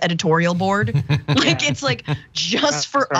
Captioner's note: laugh